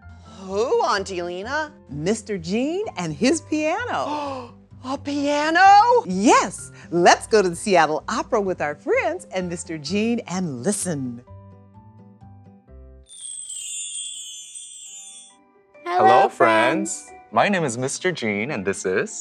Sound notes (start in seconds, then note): 4.2 Possum gasps; 13.0 magical chime